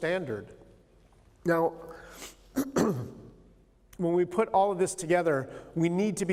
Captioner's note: clears throat